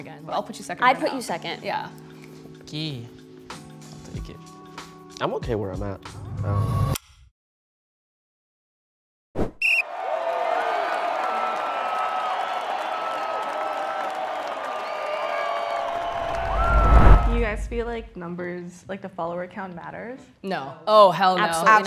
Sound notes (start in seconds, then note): 9.6 whistle; 9.7 crowd cheering